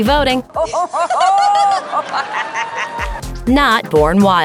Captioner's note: evil laugh